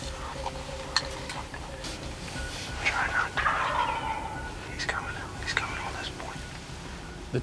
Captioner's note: whispering